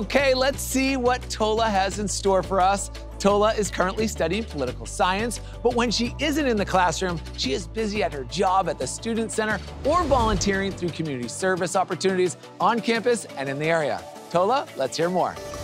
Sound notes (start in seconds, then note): 9.6 graphics whoosh